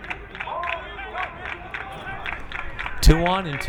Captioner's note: crowd clapping